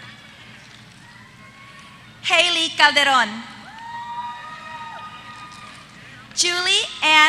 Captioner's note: applause